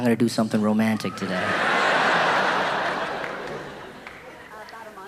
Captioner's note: audience laughing